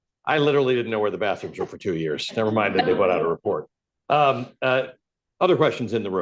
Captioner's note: laughter